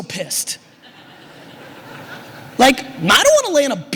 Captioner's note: audience laughter